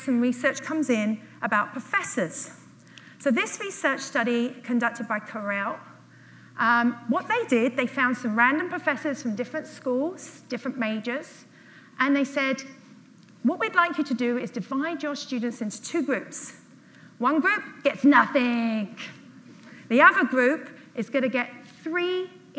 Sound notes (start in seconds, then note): none